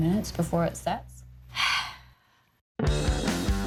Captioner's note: sighs